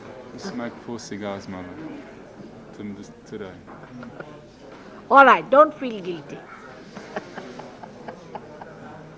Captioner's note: shri mataji laughs